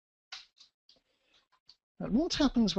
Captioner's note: pause